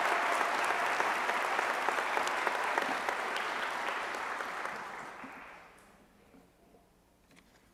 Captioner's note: applause